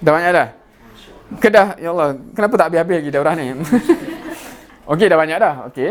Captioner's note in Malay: ketawa